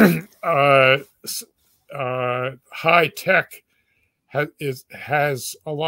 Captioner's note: cough